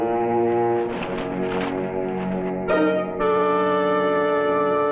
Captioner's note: suspenseful orchestral music; bushes rustling